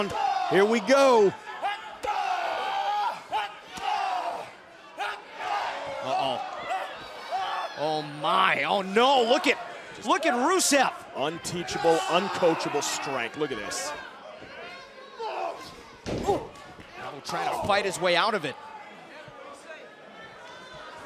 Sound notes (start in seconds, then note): 6.8 shouting